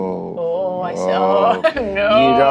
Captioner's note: chuckles